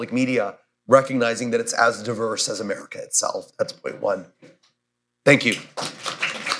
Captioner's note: applause